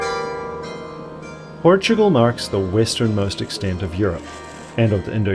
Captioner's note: bells ringing